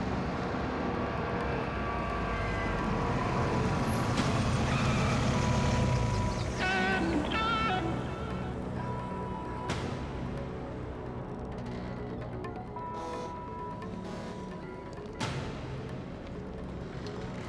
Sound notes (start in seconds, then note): 5.0 tires screeching; 14.2 boat horn honking